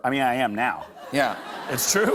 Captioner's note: laughter